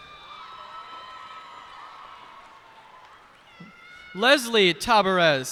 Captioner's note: cheers and applause